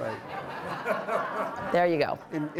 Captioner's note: audience laughing